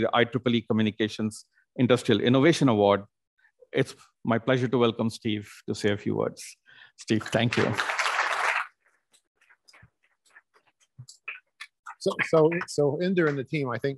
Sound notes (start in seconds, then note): 7.2 applause